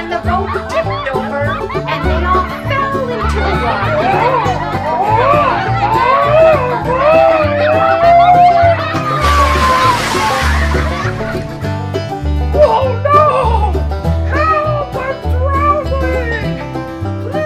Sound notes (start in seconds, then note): 0.0 banjo music; 6.4 yelling; 9.0 splash